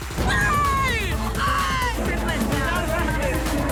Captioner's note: screaming